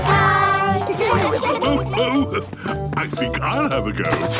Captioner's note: laughs